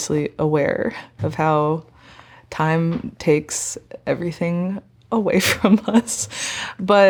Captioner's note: chuckling